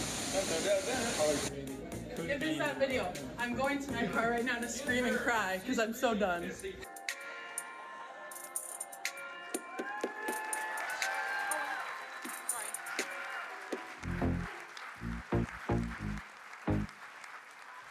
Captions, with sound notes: dan-da-da-dan. - Get this at video. I'm going to my car right now to scream and cry 'cause I'm so done. (light music) (audience cheering and applauding)